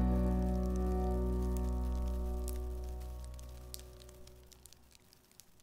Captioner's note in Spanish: crujido de papel quemandose